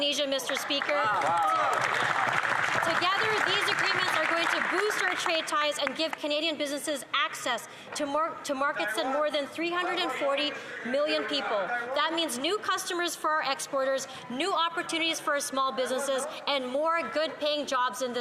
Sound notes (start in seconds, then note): 7.1 applause